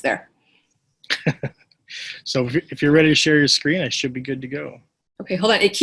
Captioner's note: laughs